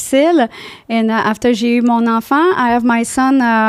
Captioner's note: in french